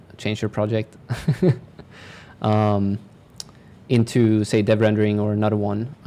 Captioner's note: chuckle